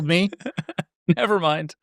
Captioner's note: laughing